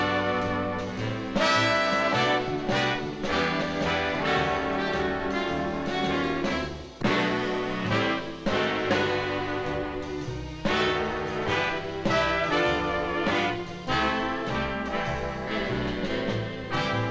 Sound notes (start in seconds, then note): none